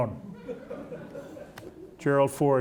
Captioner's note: audience laughing